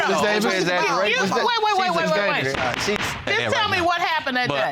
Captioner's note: bangs gavel